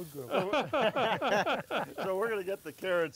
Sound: all laugh

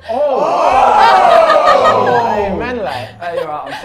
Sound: laughs; Sidemen shouting

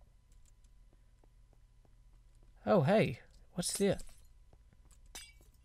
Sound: breaking glass

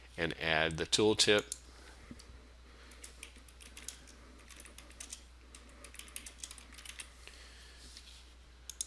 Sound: sound of typing

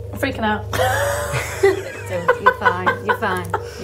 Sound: laughing

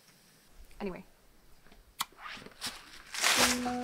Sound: kisses

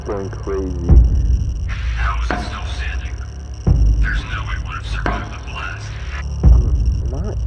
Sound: over Radio

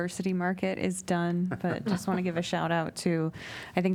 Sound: laughter

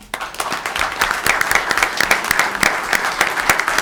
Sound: audience claps

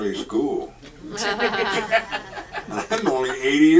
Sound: audience laughs

